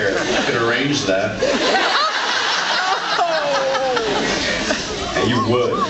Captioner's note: laughs